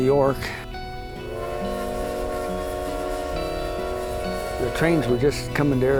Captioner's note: train whistle